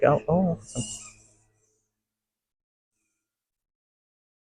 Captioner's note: bat calls